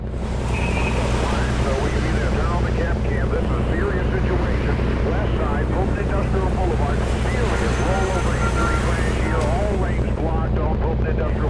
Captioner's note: traffic noises, traffic reporter